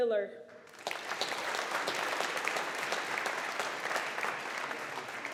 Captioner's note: audience applauding